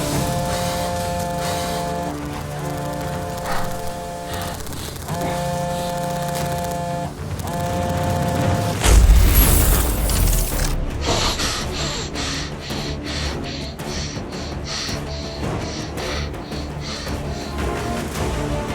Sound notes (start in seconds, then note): 0.0 phone vibrating; 8.8 explosion; 11.3 heavy breathing; 14.4 intense music continues